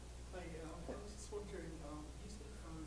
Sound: voiceover

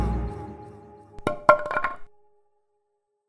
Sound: wood Drop

